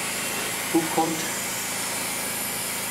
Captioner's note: humming, hissing; hissing